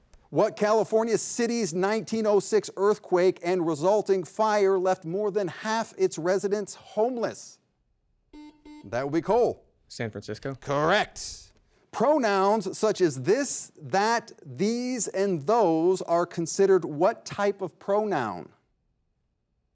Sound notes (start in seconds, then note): 8.3 double beep